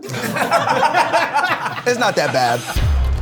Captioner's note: all laugh